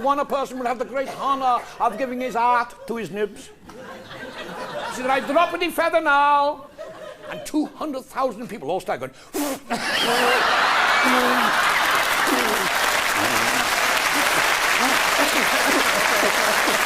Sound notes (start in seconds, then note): 13.1 blowing sound